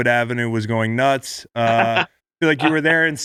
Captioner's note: Sean laughs